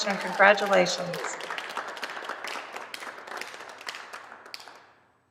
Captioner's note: applause